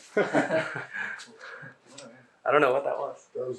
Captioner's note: laughing